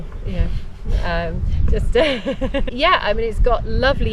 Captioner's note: laughter